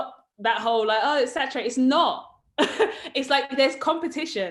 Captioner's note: chuckles